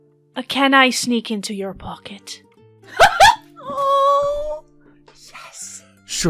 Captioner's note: laughter